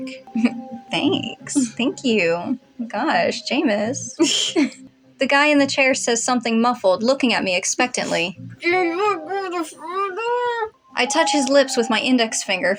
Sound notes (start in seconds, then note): 4.1 chuckle; 4.2 snicker; 9.0 muffled Speaking